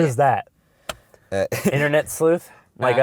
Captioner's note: voiceover